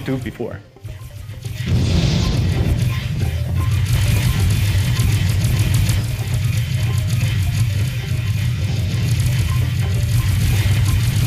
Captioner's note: game sounds